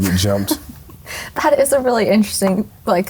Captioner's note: laughing